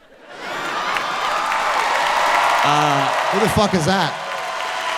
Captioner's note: audience cheering